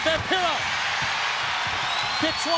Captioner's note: crowd cheering